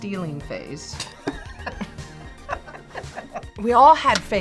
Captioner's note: both laugh